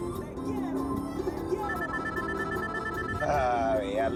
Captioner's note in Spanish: Suena el teléfono